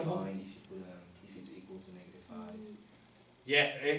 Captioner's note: voiceover